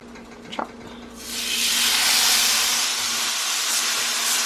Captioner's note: sizzling